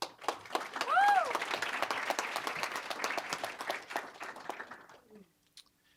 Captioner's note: applause